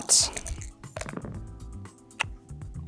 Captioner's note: dice rattling; dice rolling